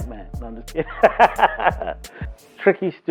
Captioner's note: laughs